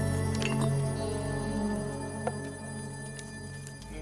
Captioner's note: urn lid clinks